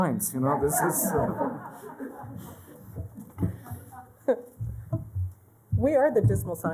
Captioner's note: laughter